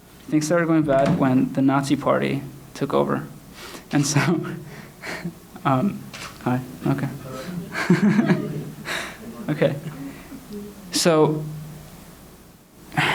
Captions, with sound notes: Things started going bad when the Nazi Party took over. (shutter clicks) Hi, okay. (chuckles)